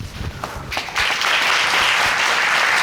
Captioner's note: audience applauding